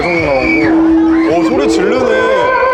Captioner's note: laughing